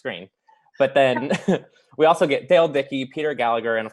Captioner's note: laughs